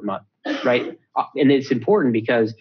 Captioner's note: cough in background